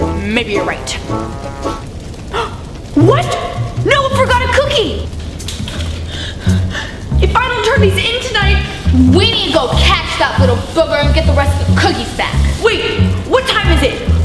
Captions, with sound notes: - Maybe you're right. (gasps) What? Noah forgot a cookie! If I don't turn this in tonight. - We need to go catch that little booger and get the rest of the cookies back. - Wait, what time is it?